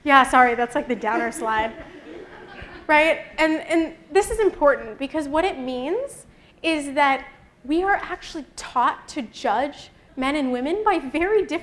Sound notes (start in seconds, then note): 0.9 laughter